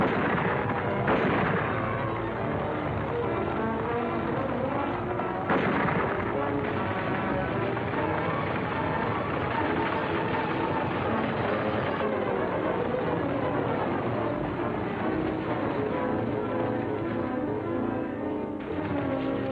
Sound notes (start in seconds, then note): 0.0 horses galloping; 0.3 weapons firing; 4.0 dramatic music; 5.3 weapon fires; 9.2 wagon rattling; 10.8 reins jingling; 16.4 gentle music